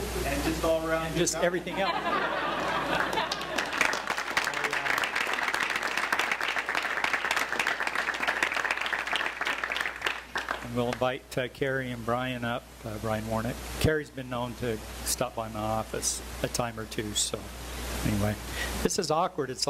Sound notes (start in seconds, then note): 1.6 laughter; 2.6 applause